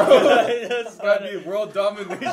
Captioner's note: laughter